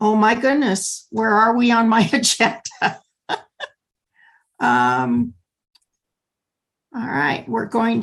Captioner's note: laughter